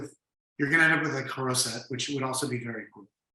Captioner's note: speaking foreign language